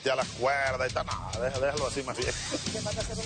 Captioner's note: risas